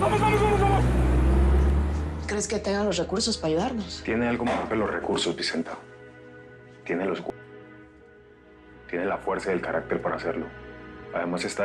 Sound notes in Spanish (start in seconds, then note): 2.5 Chirrido de llantas